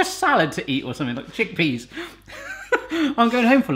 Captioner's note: laughs